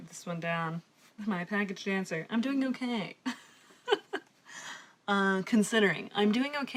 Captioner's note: laughs